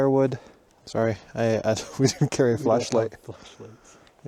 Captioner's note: chuckles